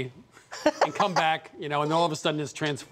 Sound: laughs

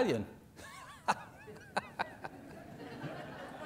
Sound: laughing

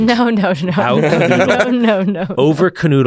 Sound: laughs

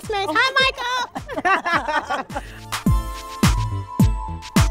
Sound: both laughing

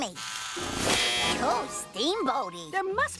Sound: buzz

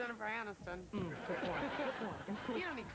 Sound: laughs

